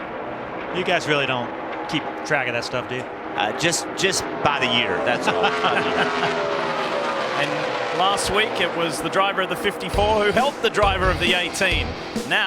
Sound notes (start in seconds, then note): 5.1 laughter